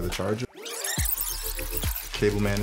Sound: fast-forward screeching

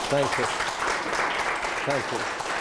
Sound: applause

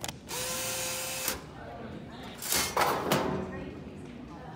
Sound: machine buzzing

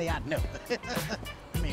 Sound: laughter

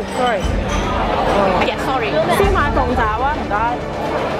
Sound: suspenseful background music; communicating in Cantonese; loud chattering and clinking of ceramic ware; suspenseful background music

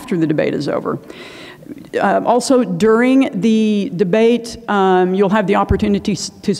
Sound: inhales

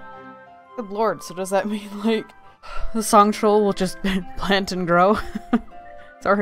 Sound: laughs

